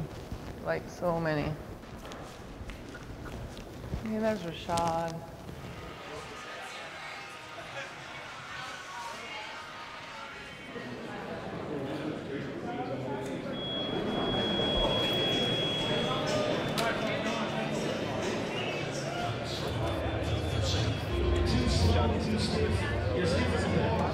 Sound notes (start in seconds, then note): 5.8 crowd chatter; 13.5 beeping